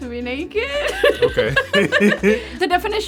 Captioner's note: giggles